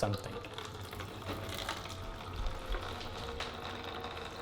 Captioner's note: water dripping